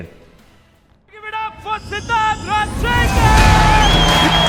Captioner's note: crowd cheering drowns speaker